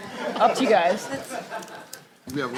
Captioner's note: chuckling